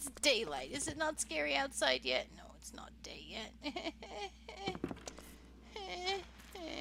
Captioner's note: cries and whines